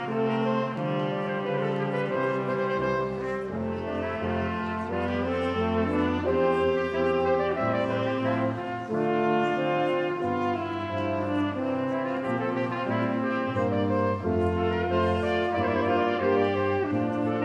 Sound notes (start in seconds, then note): none